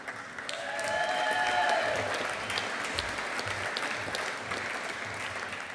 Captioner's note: audience applauding